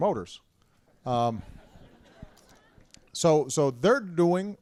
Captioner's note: laughter